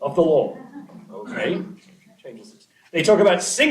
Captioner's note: laughter